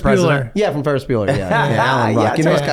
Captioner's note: Charlie laughs